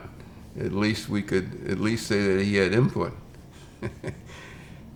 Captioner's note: laughs